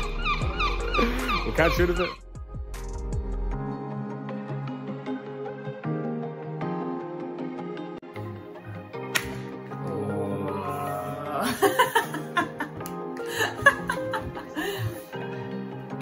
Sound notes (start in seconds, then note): 0.0 seagull squawking continues; 2.9 peaceful upbeat music; 9.1 plastic pops; 12.9 laughing